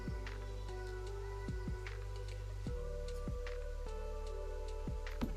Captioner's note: whispers